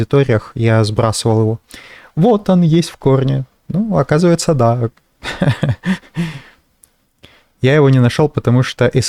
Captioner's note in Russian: смех